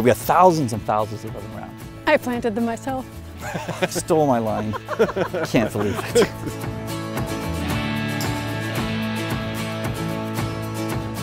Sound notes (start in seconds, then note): 3.4 laughs; 6.6 acoustic guitar music